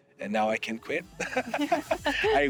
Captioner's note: laughing